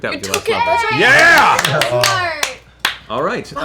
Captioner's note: cheering